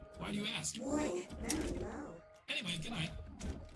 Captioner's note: computer voice